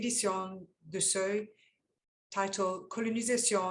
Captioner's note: speaking French